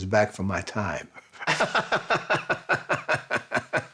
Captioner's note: both laughing